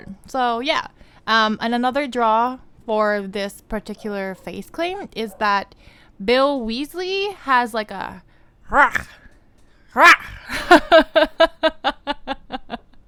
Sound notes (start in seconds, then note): 8.8 roar sound; 9.8 louder roar sound; 10.4 giddy laughter